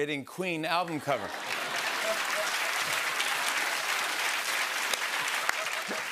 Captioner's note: applause